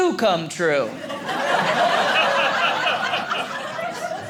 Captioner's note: audience laughing